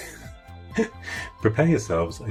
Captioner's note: laughing